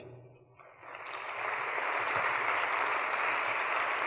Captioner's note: audience applauds